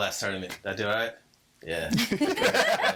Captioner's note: all laughing